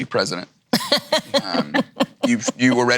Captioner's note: laughs